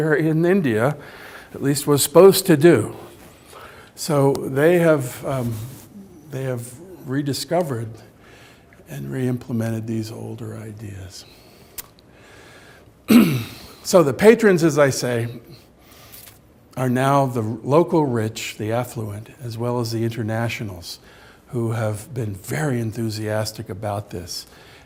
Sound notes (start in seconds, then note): 13.1 clears throat